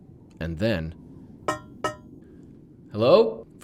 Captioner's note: knock knock